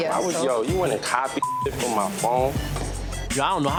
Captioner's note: beep